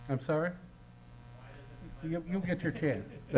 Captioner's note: faintly speaking